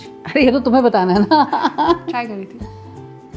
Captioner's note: laughing